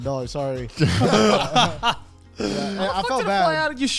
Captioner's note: all laugh